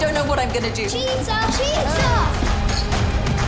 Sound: glasses clink

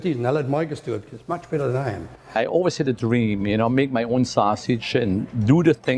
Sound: none

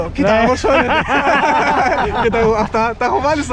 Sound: laughs

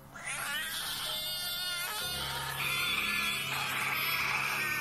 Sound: cat like squeal

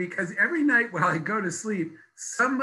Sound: laughs

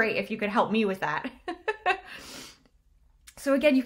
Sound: chuckles

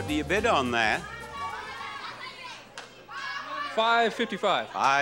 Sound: audience shouts numbers

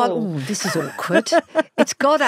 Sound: Giovanna laughs

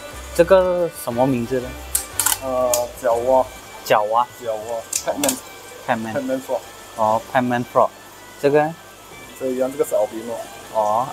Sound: speaking in Chinese

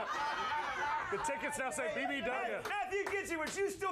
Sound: laughter

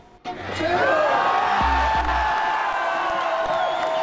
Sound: crowd cheering

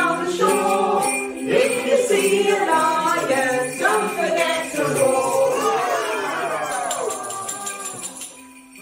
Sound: roars

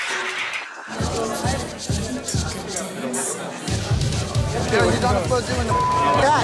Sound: beep

